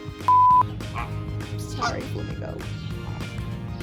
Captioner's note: test card beeps; flamingos honking